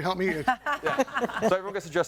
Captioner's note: all laughing